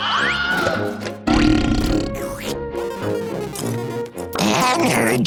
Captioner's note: burping sound